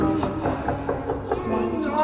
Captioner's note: knocking on the door